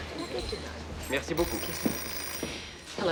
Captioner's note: man speaking foreign language